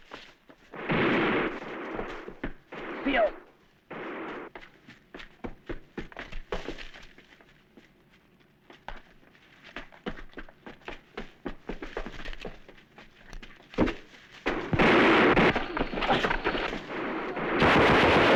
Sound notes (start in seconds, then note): 0.8 gunshot; 2.4 non-english speech; 14.4 gunfire